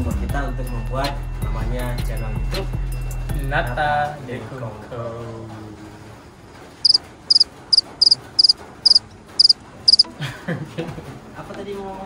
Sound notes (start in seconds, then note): 7.6 cricket